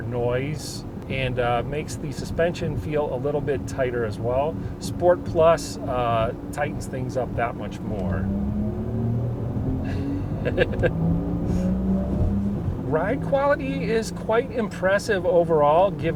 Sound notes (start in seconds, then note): 9.8 chuckles